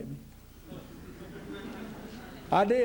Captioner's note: laughter